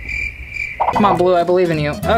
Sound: crickets

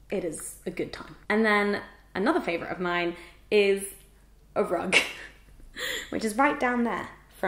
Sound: chuckle

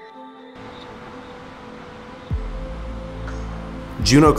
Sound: water falling

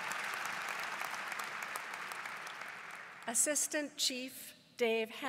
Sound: applause

